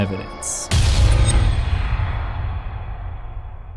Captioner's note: impact